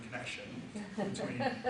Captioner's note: audience member laughs